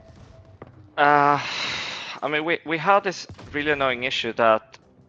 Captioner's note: sighs